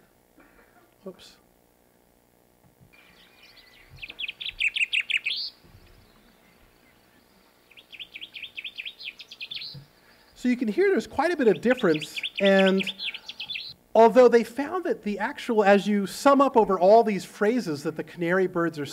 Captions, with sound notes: [BIRDS CHIRPING] So you can hear there's quite a bit of difference. And although they found that the actual-- as you sum up over all these phrases that the canary birds are